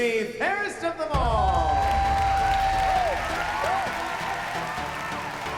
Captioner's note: cheers and applause